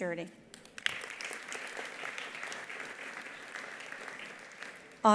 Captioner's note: attendees applauding